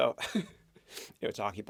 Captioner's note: chuckles